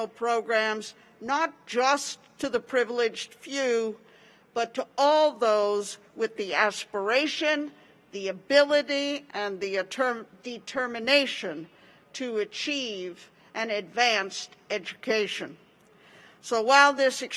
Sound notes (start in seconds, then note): none